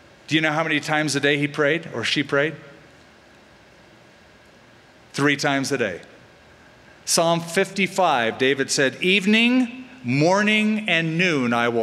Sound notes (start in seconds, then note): none